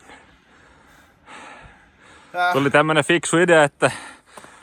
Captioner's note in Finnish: huokaisee